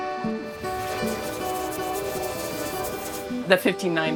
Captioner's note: air compressor hissing